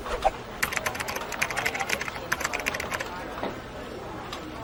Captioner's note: keyboard typing